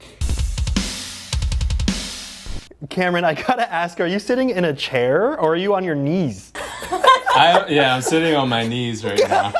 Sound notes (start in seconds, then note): 0.0 drums; 6.5 laughing